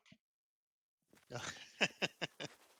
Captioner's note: laughter